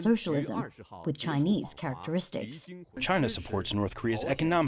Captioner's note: through translator